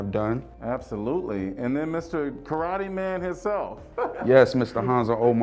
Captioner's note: laughing